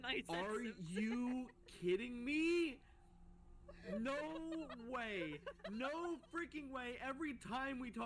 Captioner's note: laughing